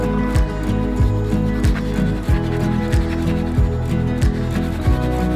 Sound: pencil scraping on paper

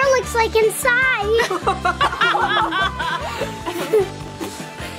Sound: everyone laughs

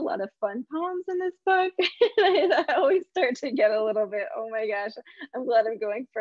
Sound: laughs

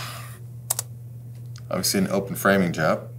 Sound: keyboard clicking

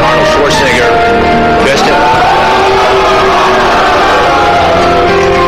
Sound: booing

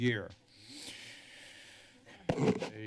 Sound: inhaling noise

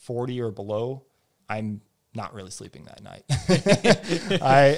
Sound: laughs

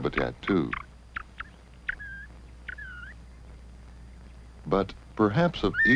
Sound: quail sounds

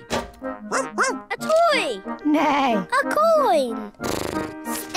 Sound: barks; neighs; snorts

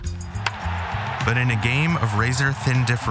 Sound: bat cracks, crowd cheers

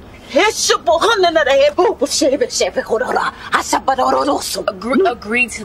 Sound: chanting foreign language

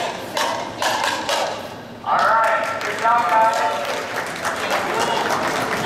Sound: cheers and Applause

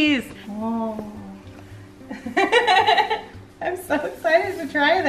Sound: laughing

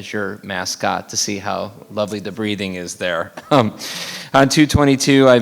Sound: laughs

